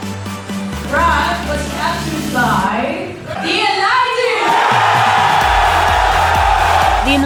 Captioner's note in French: applaudissements